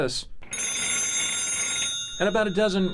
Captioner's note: phone rings